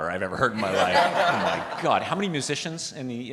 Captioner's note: participants laughing